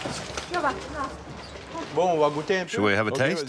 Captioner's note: speaking in foreign language